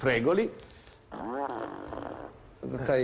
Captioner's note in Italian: rumore di peto